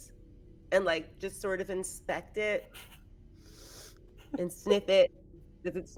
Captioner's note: sniffs